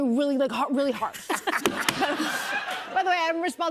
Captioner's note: laughter